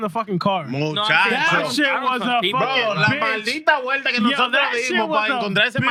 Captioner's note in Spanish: Hablando en idioma extranjero